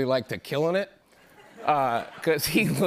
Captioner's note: laughter